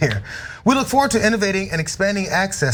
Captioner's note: laugh